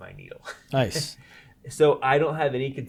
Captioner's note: chuckles